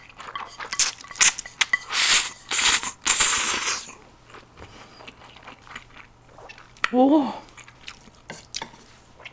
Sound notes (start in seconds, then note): 0.6 slurping